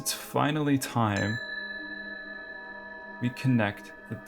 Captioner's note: bell ding